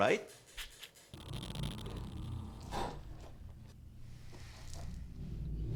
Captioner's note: electronic buzzing